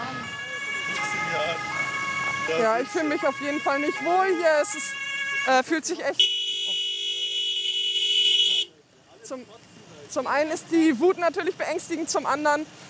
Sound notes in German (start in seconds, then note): 0.0 Polizeisirene; 6.1 Lautes Hupen